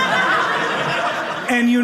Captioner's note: audience laughing